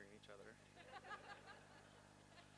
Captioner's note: laughter